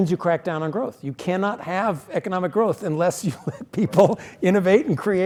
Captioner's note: laugh